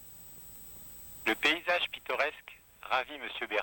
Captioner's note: french